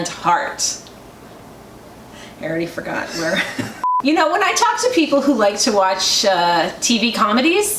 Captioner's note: laughter